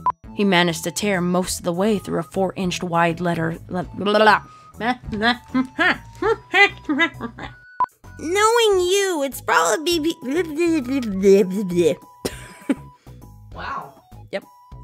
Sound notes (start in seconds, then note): 12.2 laughs